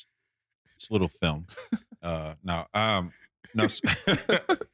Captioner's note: laughing